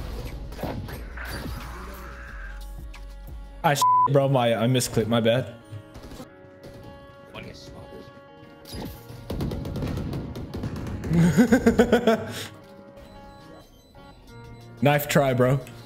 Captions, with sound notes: Aww s*** bro, I- I miss-clicked... my bad *more maniacal laughter* Knife try, bro...